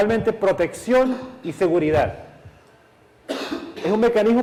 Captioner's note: cough